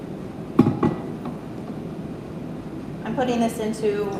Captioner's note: glass clinking